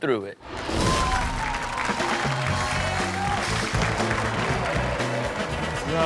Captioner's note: audience cheers; upbeat music